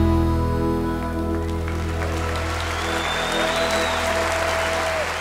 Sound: cheers and applause

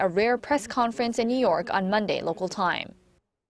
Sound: Korean

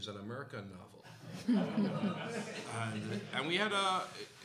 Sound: laughter

